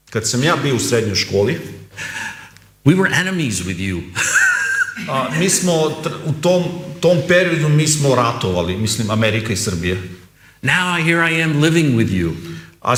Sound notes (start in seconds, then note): 4.1 laughs